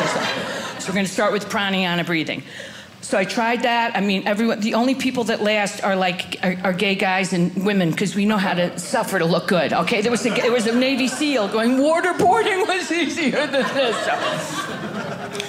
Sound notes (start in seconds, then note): 14.1 audience laughing